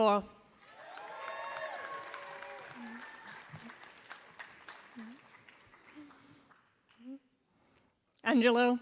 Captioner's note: applause